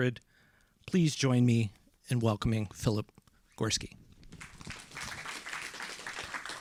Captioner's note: applause